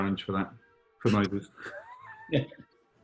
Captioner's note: sniggering